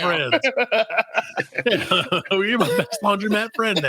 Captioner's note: laughing